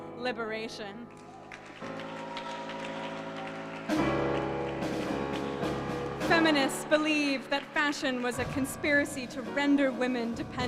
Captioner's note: applause and music playing